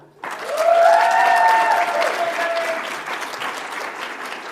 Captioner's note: audience applauds